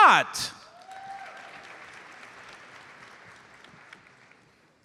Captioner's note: audience applauds